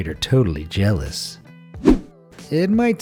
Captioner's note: air whooshing